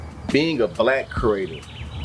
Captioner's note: birds Chirping